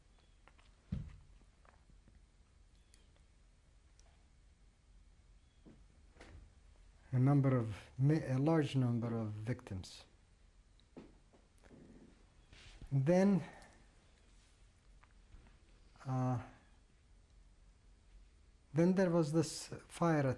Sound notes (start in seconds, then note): 1.9 pauses for 7 seconds; 9.6 pauses for 3 seconds